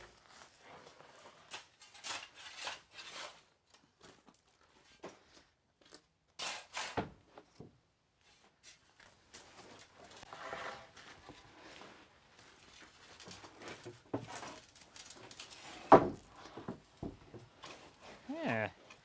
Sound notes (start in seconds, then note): 4.6 shovel scraping; 15.8 wood thumping